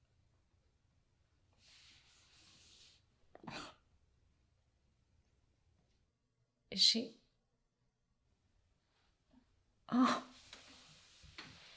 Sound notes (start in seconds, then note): 3.1 gasps; 9.7 lyssa cries